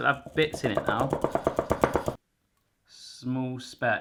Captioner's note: knocking